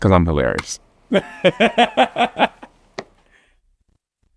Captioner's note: laughs